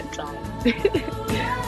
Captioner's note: laughter